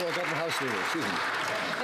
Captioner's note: some Applause